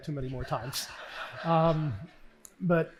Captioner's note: laughing